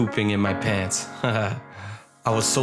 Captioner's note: laughs